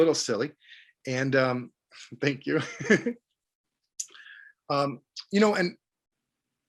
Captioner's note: laughs